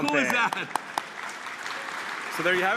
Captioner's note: applause